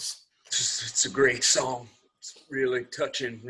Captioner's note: chokes up